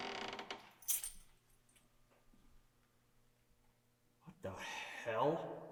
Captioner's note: keys clang